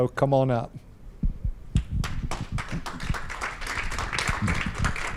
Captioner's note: applause